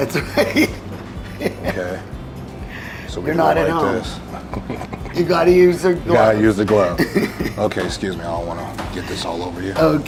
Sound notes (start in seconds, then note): 0.0 laughing; 4.2 laughing; 6.9 laughing